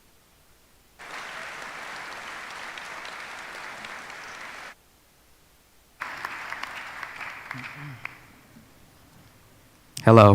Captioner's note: applause